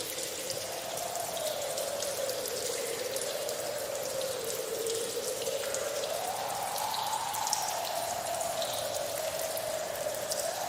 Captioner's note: strong winds